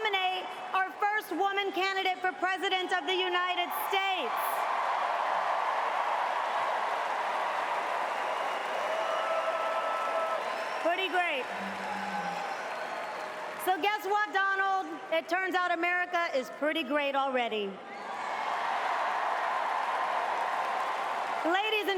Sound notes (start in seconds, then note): 17.8 cheers and applause